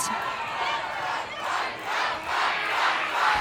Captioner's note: crowd chanting